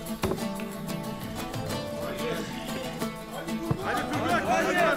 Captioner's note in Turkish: Müzik - Neşeli; Tezahürat sesleri